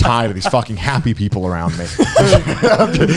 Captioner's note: laughing